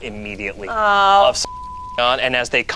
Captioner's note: beep